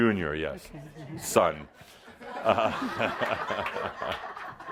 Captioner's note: some laughter and Adamus chuckles